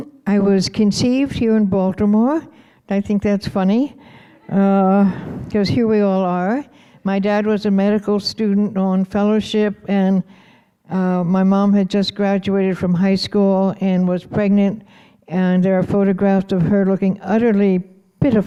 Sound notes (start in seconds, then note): none